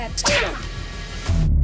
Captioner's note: hard punch